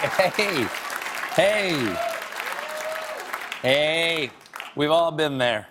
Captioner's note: applause